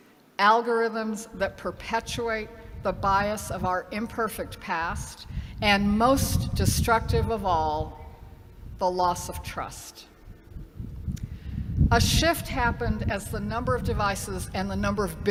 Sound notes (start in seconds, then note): none